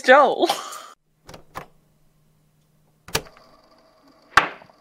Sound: click

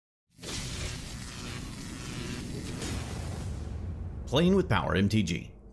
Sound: electricity crackles

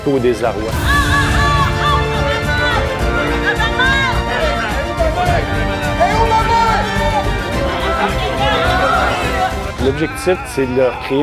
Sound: cries of false victims in pain

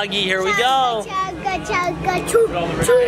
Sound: baby talking

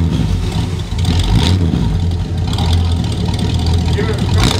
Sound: car engine revving loudly

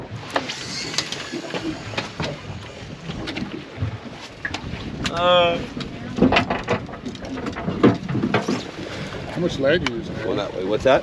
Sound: reel spinning

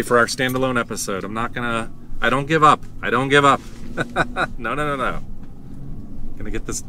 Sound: laughter

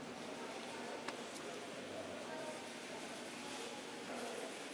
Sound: crowd chattering

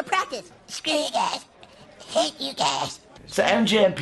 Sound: Cartman voice

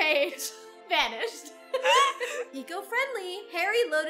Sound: both laugh

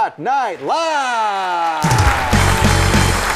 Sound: applause; rock music

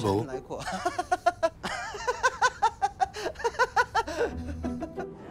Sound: laughing

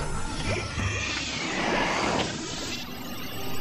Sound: suction noise; electric whir

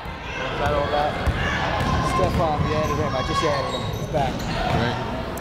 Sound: people shouting in the crowd

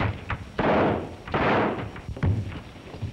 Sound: gunshots

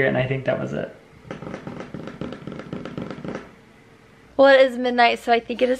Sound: drumming fingers

